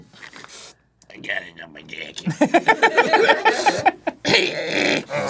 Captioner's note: laughing